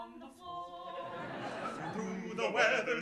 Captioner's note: audience laughing